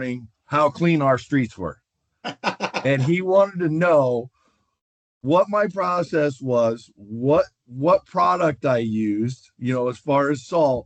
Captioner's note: laughter